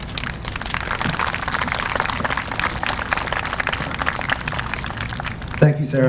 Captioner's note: applause